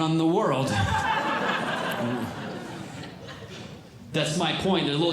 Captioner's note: audience Laughing